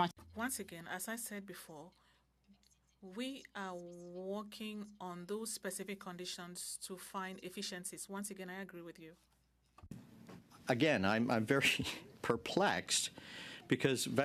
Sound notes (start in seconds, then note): 7.9 speaking French